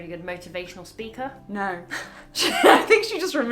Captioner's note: laugh